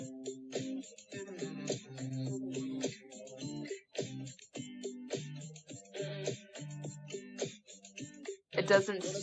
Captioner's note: pitch-shifted and heavily-processed vocalizing